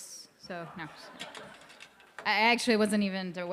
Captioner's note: crowd laughing